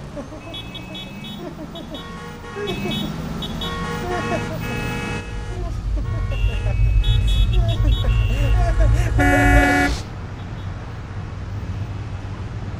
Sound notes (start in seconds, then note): 0.1 faint maniacal laughter; 9.7 car horn beeps, laughter stops